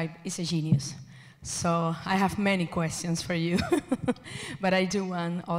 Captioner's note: laughs